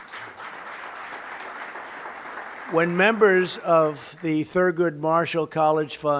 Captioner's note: applause